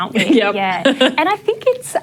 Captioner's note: laughs